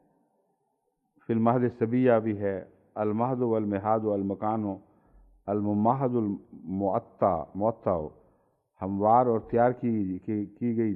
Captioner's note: Arabic